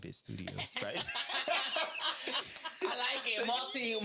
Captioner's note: laughing